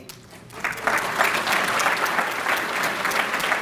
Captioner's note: applause